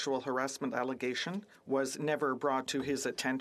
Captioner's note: speaking French